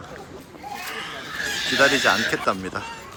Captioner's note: sobbing